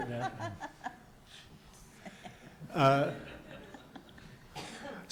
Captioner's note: laughing